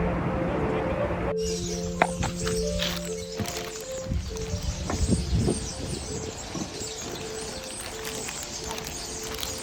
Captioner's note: ethereal music; street background; loud birds